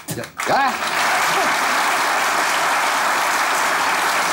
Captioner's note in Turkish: Alkış sesleri